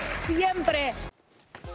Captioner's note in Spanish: aplausos